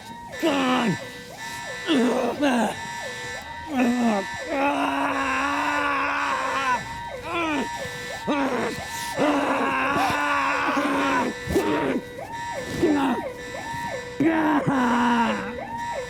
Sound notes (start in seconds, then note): 0.3 continues groaning; 4.4 groans then screams; 8.1 both groaning and screaming